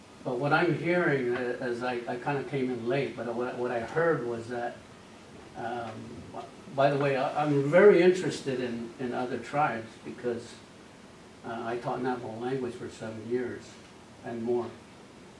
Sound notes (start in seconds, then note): none